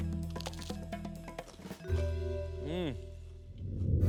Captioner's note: bites into bread